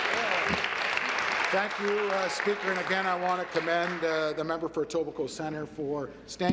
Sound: applause

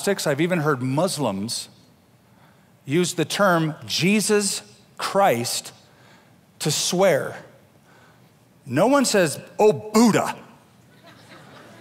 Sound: laughter

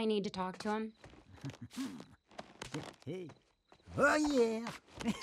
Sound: Wayne continues grunting rhythmically

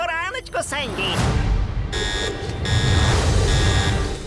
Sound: alarm buzzing; dramatic sting

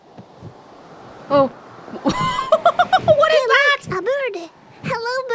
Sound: chuckles

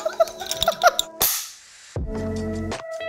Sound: laughs; clapperboard snaps; bright music continues

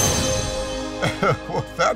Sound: laughing

